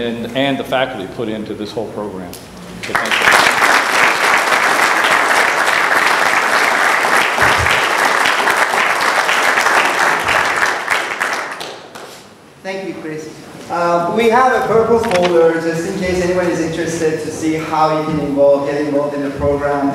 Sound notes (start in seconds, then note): 2.8 applause